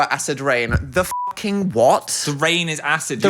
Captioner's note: beep